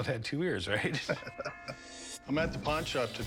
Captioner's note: laughter